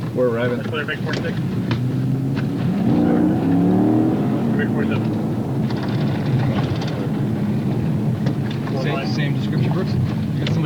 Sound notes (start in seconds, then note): 2.8 engine revving again